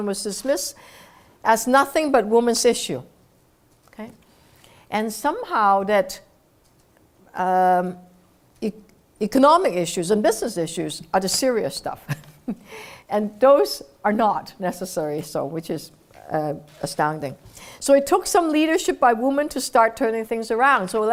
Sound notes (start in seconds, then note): 12.6 laugh